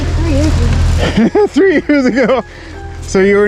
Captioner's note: laughs in disbelief